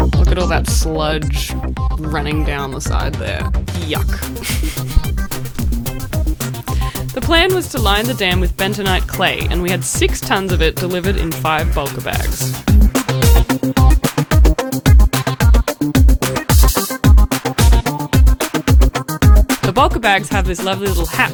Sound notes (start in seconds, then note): 3.9 laughs